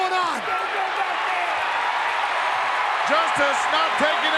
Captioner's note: crowd cheering